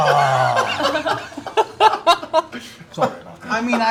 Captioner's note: frustrated noise